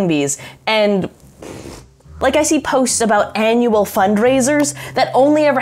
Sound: trills lips

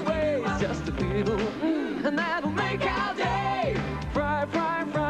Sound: mmmm

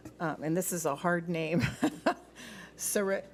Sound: laughs

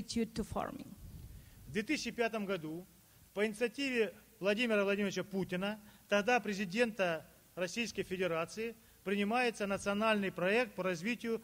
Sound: speaking Russian

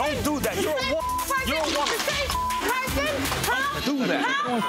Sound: beeps

